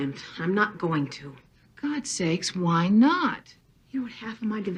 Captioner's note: on TV; on TV